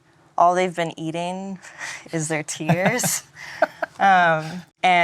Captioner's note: laughing